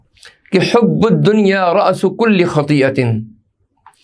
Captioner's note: hadeeth in Arabic